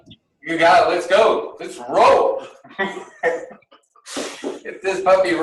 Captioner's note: laughs